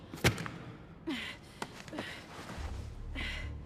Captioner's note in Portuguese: respirando pesado